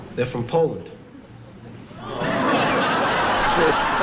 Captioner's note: audience Laughing